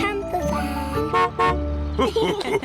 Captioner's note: horn honks; laughter